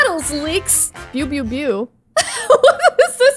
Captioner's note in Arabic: يضحك